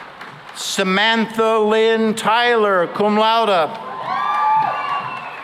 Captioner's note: cheering and applause; cheering and applause